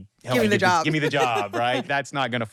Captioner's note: laughs